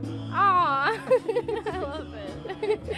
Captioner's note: laughs